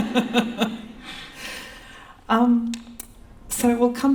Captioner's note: laughter